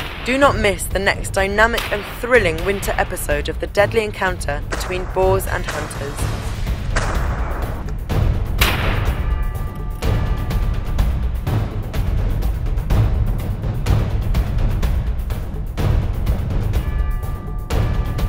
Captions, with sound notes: Do not miss the next dynamic and thrilling winter episode of the deadly encounter between Boars and Hunters. [intense music] [gunshot] [intense music] BOARS AND HUNTERS